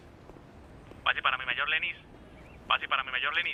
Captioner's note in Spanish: Voz en la radio